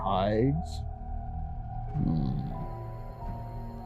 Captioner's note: hummmm